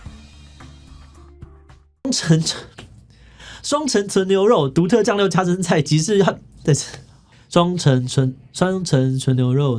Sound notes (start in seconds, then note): 3.1 inhale